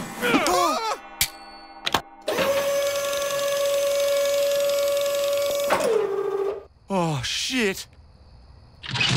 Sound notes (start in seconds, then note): 2.2 whirring; 8.6 blast